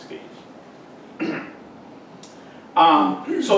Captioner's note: clears throat